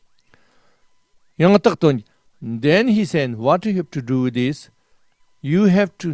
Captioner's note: tibetan